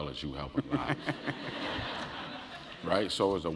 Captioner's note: laugh